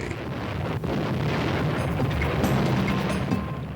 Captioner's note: bombs exploding